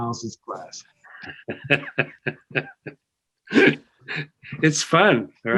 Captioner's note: laughter